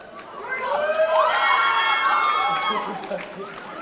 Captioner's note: audience cheering